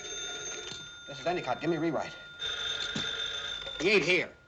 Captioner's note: phones ringing; ringing